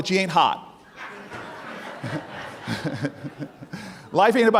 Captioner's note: audience laughing